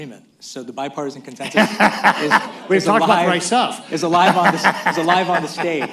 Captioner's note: laughs; laughter